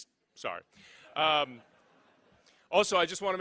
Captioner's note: laughing